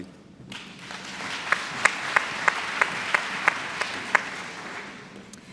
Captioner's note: applause